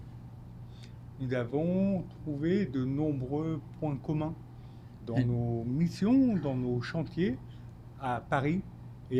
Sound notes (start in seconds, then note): 1.2 speaking French